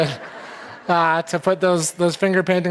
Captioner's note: audience laughing